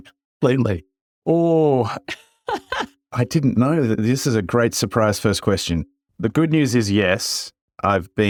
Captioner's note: laugh